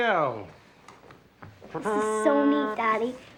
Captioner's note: mimics fanfare